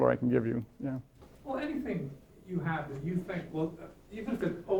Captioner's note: voiceover